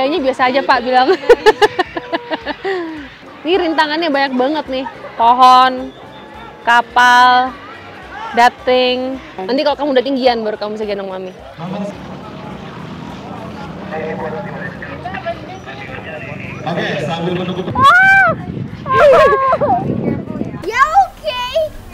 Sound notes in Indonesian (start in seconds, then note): 1.0 Ketawa; 17.8 Teriak